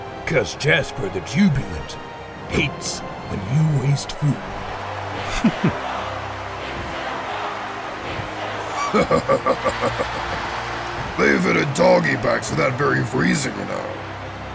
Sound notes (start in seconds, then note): 5.2 chuckles; 8.5 laughs